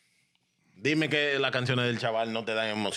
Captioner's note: speaking In Foreign Language